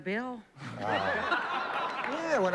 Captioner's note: laughter